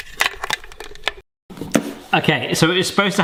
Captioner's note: plastic appliance rattling